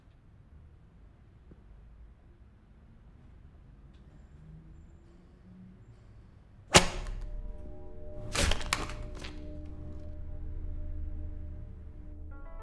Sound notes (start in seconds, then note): 8.1 paper cracks